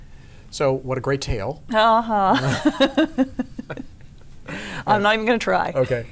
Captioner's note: laughs